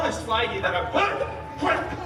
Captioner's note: grunts